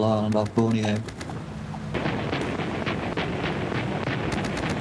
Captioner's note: gunfire